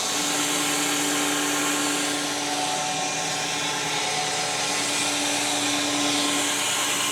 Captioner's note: woodcutter machine hissing continues